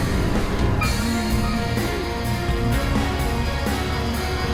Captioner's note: moaning and Struggling